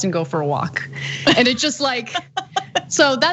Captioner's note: laugh